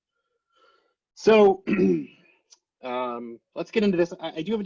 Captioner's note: clears throat